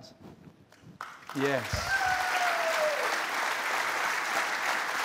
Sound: cheers and applause

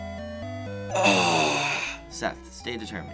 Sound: groaning

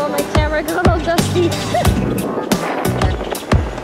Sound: laugh

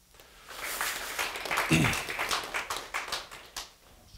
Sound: applause

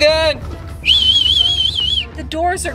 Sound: whistles

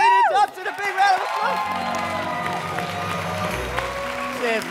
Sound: cheers and applause

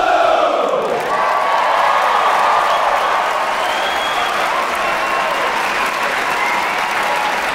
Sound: crowd cheering; crowd applauding

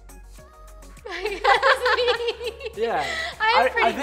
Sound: laughing; laughs

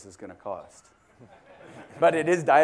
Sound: laugh

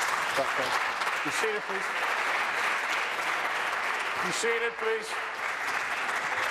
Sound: some Applause

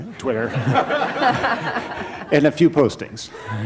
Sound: laughter

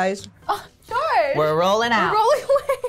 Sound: gasps

